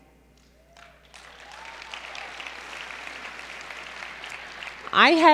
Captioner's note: applause